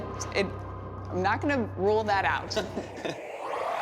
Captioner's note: both chuckle